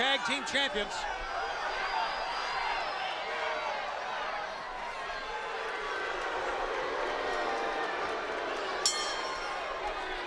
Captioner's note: crowd cheering; bell ringing